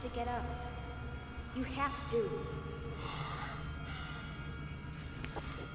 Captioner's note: gasping